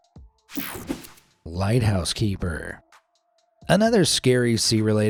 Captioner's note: screen whooshing